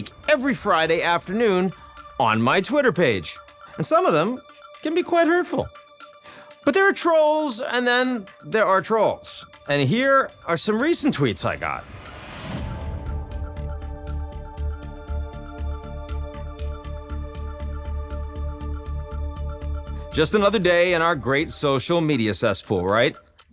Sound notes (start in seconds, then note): 12.2 text whooshes; 13.4 gentle dramatic music